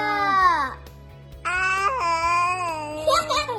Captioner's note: baby babbling; child laughing